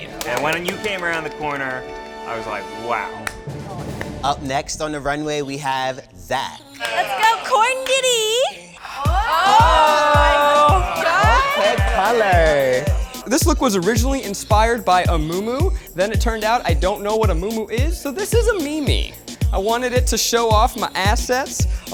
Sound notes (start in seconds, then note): 9.0 audience applauds; 9.2 upbeat music